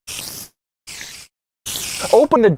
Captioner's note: Minecraft spider sounds